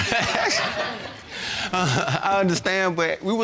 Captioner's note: chuckles